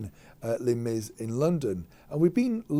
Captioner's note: none